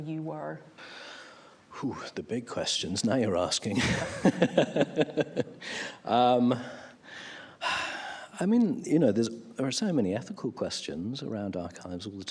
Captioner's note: laughs